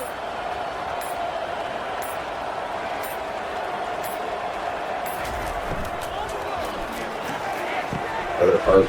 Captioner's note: crowd Noises